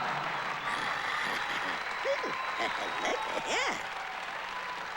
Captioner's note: cheers and applause